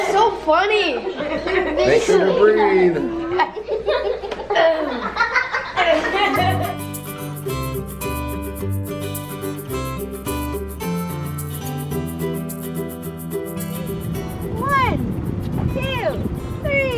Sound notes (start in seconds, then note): 3.9 kids laughing